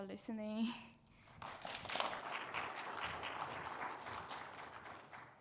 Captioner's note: audience clapping